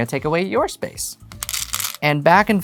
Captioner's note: stones rattling